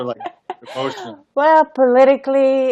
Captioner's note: laughs